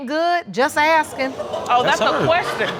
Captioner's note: audience exclaiming